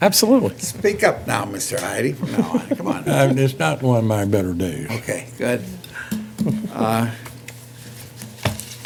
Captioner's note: laughter